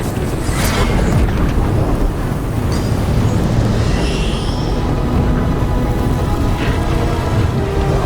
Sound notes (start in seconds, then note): 0.0 flames whooshing